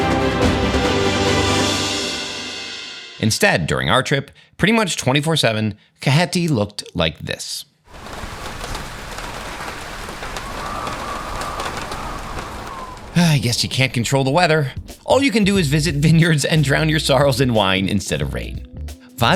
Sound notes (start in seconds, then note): 7.8 rain pattering; 10.9 wind whistling